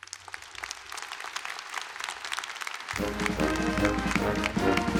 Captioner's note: applause